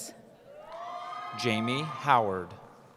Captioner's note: cheering